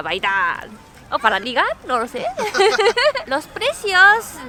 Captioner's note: flirty laugh